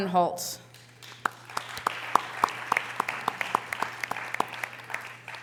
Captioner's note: audience applause